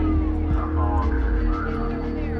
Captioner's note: sirens wailing